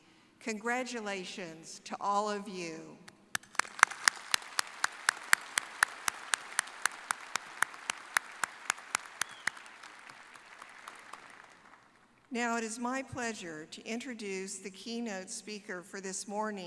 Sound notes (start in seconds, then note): 8.6 applause